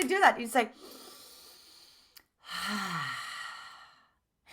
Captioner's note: breathing